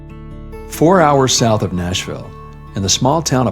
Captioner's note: voice-over